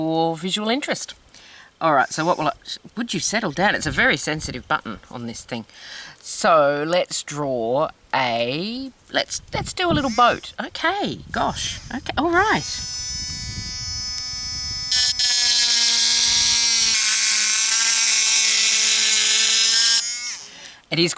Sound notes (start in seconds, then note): 2.1 buzz; 12.4 buzz; 13.5 loud Buzz